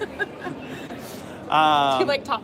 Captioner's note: laughter